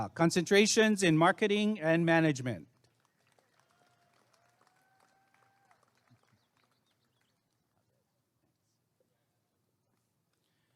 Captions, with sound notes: Concentrations in Marketing and Management [applause and cheering]